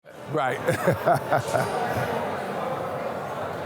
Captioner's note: laughs